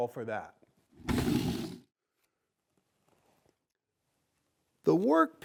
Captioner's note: planks whooshing